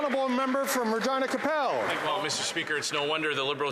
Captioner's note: some Applause